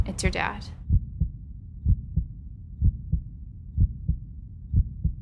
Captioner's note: heart beating